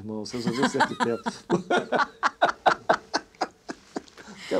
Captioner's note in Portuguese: Risadas